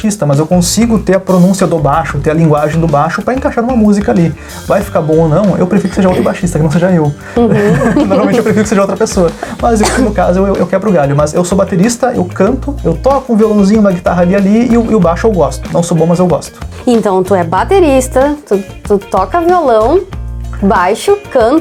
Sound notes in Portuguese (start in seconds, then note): 7.4 risos